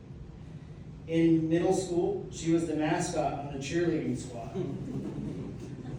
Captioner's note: laughter